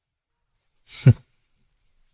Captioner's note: snort